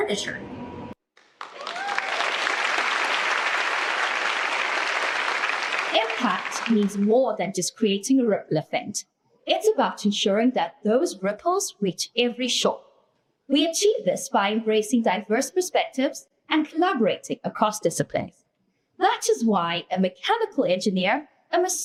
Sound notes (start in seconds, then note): 5.5 applause